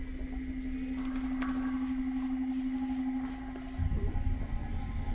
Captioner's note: lights buzzing